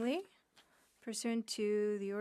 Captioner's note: speaking French